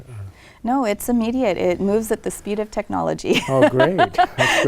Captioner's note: laughs